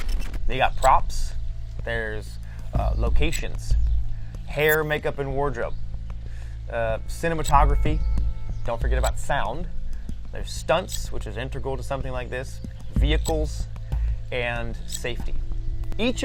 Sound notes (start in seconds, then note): none